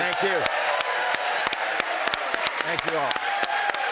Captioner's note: cheers and applause